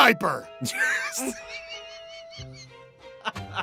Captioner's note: wheezing; laughing